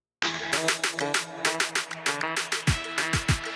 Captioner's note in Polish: Aplauz